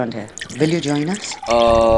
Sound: juice pouring

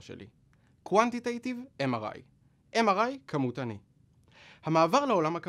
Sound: repeated in Hebrew

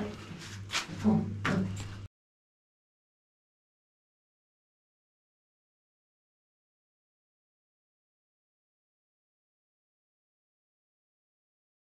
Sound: silence

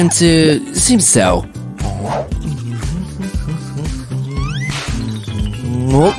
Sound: humming

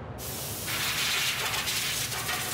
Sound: hissing

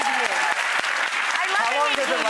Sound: audience applauding

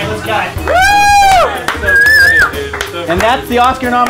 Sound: man whooping

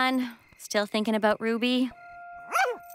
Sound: barks

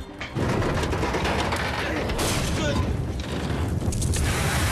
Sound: metal groaning

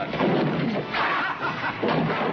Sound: laughs on video

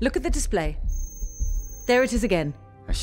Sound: weak signal noise

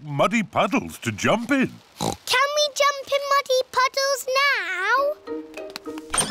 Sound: oinks

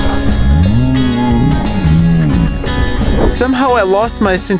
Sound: engine revving

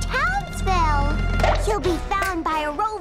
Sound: pop!

